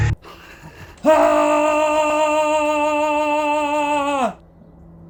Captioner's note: yells a war cry